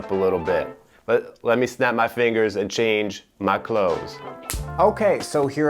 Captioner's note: fingers snap